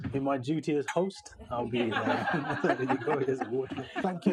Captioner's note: audience laughing